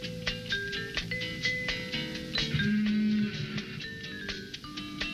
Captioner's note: hinge creaking